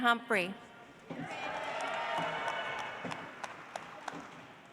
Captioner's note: audience applauds